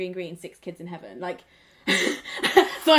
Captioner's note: laughs